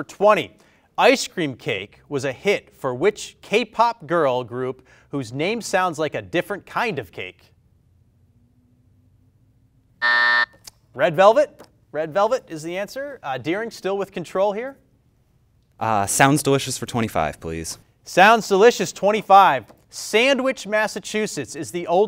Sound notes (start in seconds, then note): 9.5 bell rings